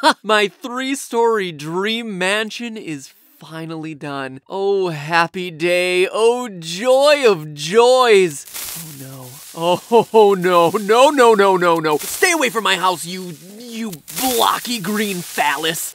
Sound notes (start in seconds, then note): 8.2 creeper hiss in background